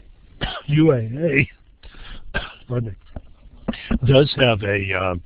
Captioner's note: coughs